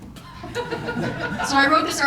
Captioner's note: audience laughs